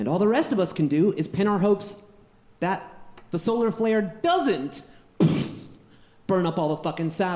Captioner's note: puffs